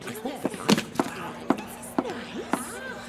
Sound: crowd murmuring

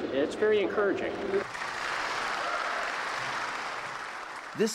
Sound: applause

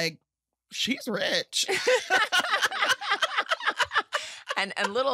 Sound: laughter

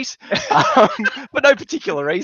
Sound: laughs

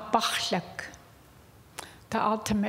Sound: speaking indigenous language

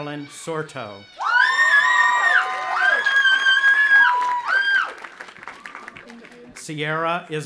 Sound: audience applauding and shrieking

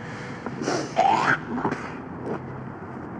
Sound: spits

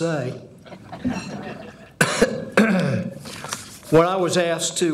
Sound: audience chuckling

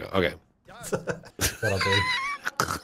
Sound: laughing

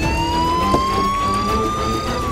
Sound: door opens

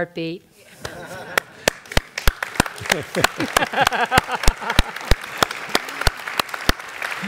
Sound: laugh; applause; laugh

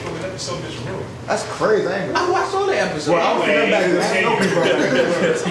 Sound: audience continues talking

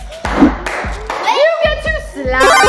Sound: claps

